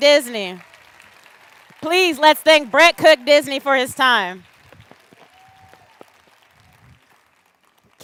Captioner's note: cheers and applause